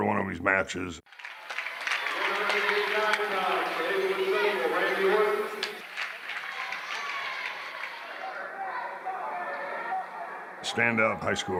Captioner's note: applause